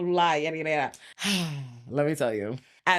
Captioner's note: sighs